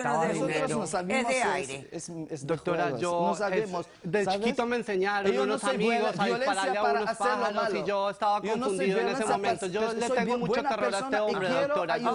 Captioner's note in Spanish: Hablan al unísono